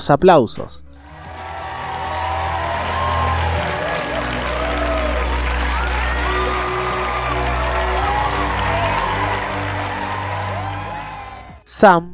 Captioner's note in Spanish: Aplausos